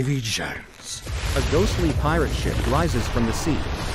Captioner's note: waves crashing